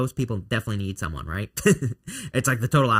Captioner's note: chuckling